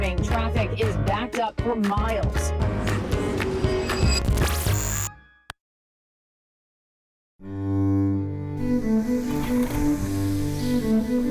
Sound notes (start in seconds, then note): 4.0 television chirps, crackles, and buzzes; 7.5 tranquil classical music